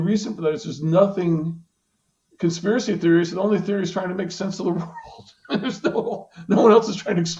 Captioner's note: laughing